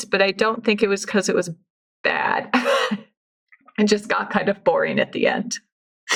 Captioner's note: laughs